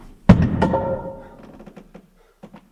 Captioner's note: board thuds